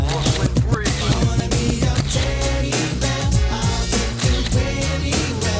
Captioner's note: camera shutter clicks